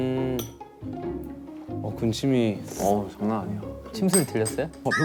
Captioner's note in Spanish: Tragando saliva